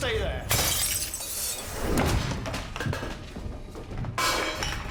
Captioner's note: glass breaking